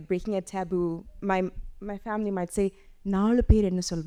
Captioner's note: speaking Tamil